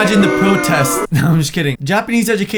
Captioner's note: chuckles